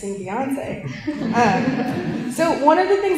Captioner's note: laughter